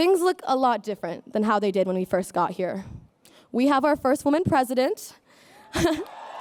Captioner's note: applause